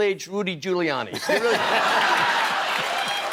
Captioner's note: laughter